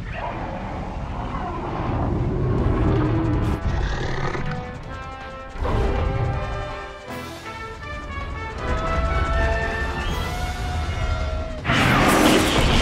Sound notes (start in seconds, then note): 0.3 Fire Rodan roars; 3.5 Rodan 2019 growls and roars